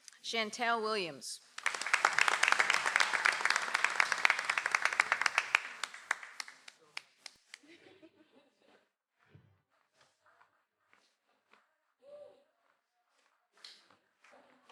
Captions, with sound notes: - Chantel Williams. (audience applauds)